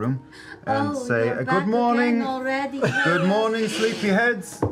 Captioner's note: sultrily